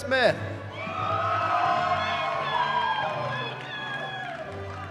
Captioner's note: cheering